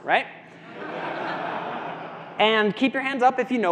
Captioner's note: audience laughs